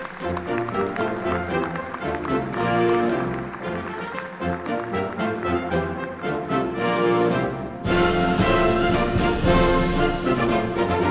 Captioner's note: applause